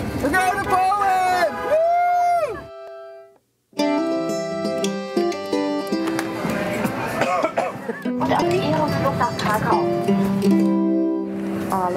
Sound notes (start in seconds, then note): 3.8 bright music; 7.1 coughing; 8.5 speaking in a foreign language